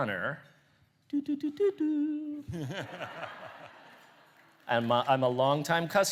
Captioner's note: laughter